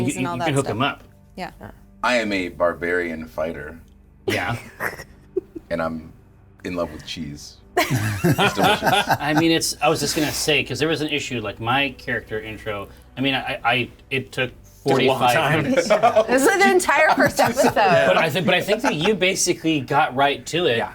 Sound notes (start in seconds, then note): 7.8 players laughing